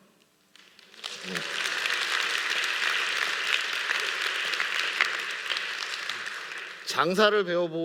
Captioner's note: applause